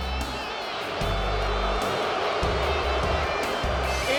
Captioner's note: crowd booting